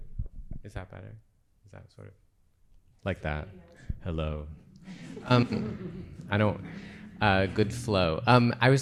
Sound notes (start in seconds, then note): 4.6 audience laughs